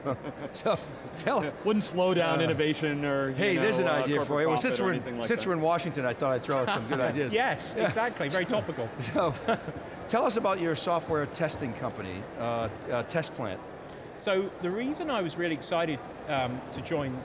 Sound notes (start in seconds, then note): 0.0 laughs; 9.0 laughs